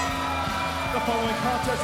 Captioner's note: bell ringing